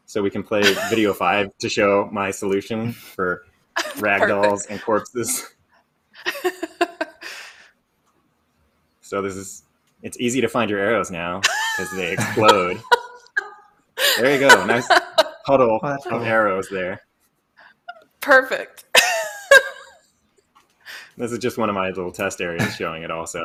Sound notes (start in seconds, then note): 6.2 laughs; 14.0 laughs; 19.0 laughs